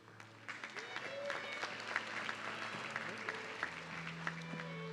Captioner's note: audience clapping